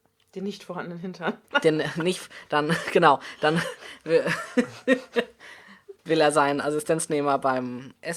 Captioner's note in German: lacht